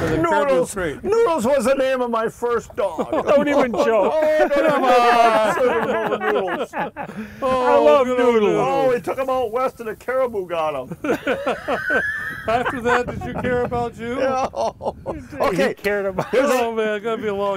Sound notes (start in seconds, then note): 4.3 all laughing